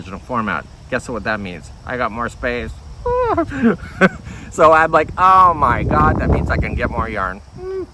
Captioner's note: chuckles